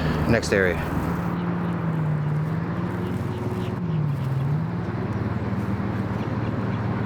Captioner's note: birds chirping; traffic droning